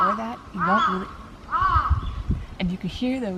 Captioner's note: loud crow interrupting